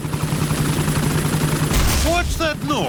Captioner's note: whirring; thuds